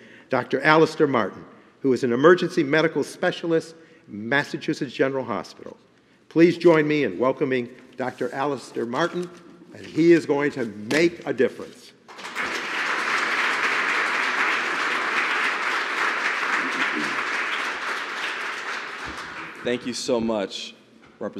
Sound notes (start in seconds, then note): 12.0 applause